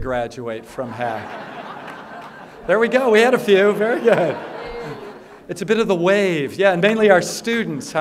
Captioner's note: laughter